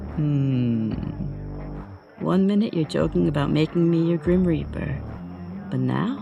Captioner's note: chuckles